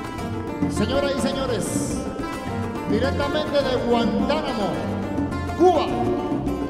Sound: speaking foreign language

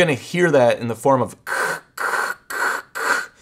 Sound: imitates static buzzing

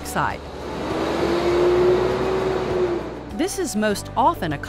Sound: truck accelerates

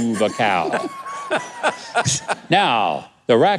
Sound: guest laughs

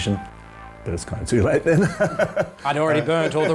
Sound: laughs

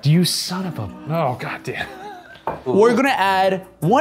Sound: chuckles

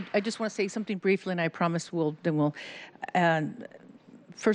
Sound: applause

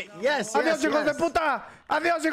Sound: in English; in Spanish

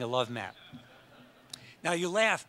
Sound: audience laughs

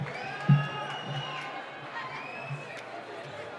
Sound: cheering

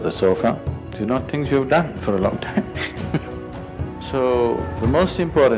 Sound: laughs

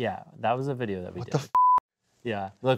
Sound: beep

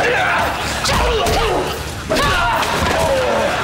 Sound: grunting

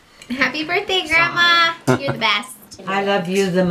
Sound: laughing

